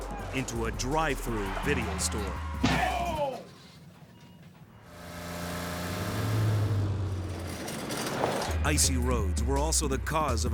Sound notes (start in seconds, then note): 4.5 vehicles thudding; 6.2 engines rumbling